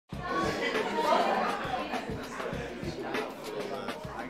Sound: classmates talking loudly

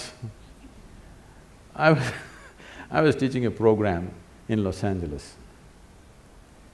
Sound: laughs

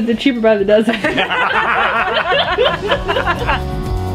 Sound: laughter

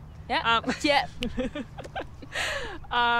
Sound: both laughing

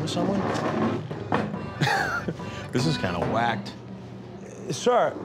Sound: laughing

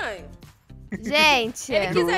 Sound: laughing on the background

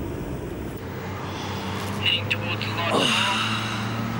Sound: yawns

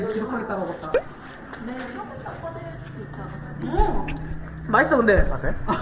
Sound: gulp

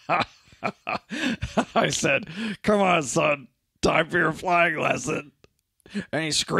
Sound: laughs obnoxiously

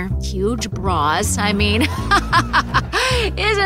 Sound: laughs

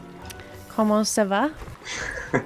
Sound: French; laughs

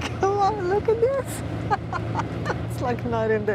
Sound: laughs

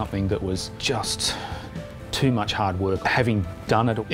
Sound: sighs

